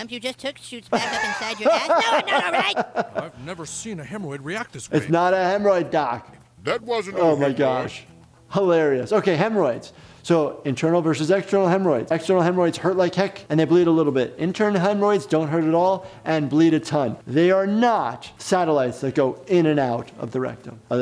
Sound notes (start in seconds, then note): 0.9 laughing